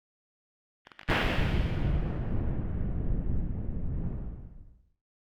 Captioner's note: lightning crackling